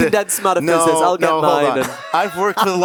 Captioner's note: the panel laugh